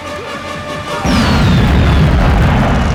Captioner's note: yelling